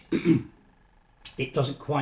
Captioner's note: clears throat